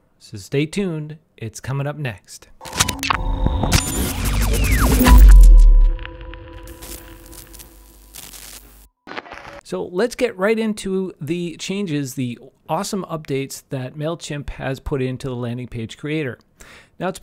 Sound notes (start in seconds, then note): 2.6 static crackling